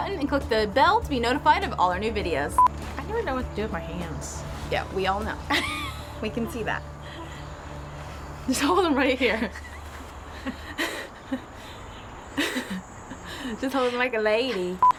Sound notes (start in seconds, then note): 5.4 laughing; 9.2 laughing